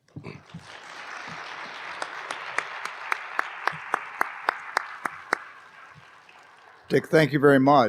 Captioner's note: applause